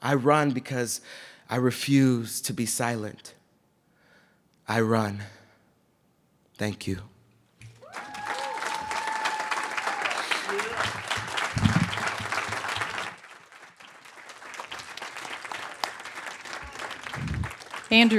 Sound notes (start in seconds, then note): 9.2 cheers; 15.1 applause